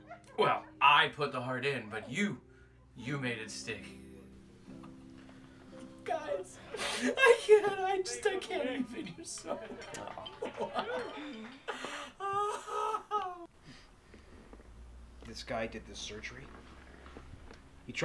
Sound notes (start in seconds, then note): 10.2 sobs